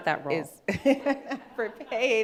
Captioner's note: laughing